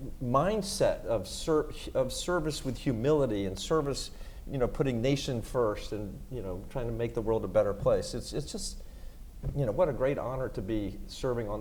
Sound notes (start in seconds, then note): none